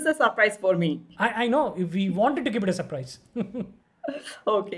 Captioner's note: chuckles